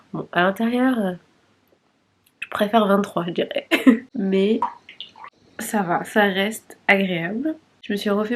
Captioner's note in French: rires